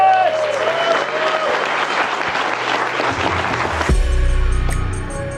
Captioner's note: attendees clapping